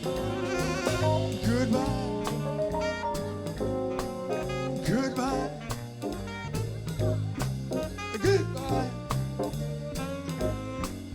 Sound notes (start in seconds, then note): 6.2 audience cheers